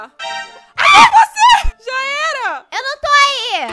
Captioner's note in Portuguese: grita